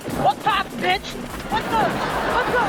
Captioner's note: crowd laughing